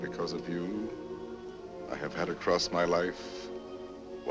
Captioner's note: none